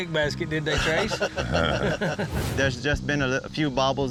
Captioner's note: chuckling